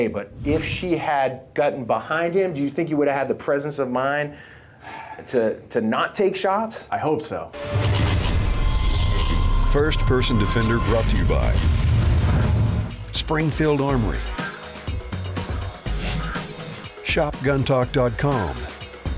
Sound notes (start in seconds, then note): 7.6 mechanical whirring